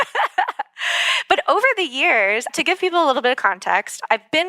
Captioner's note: laugh